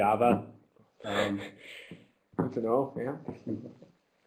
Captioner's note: laughing